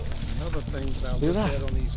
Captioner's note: rustling leaves